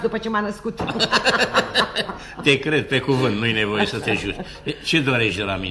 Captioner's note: laughs